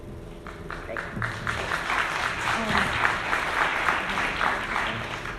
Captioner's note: audience clapping